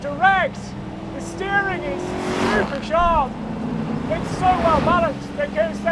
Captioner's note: engine roaring